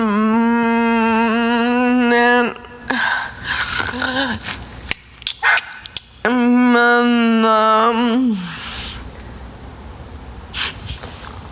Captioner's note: Selma takes a breath; tongue clicking; Selma chuckles breathlessly